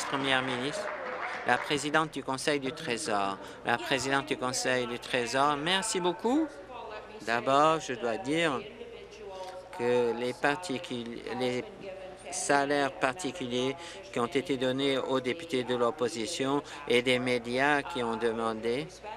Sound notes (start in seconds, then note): 0.0 applause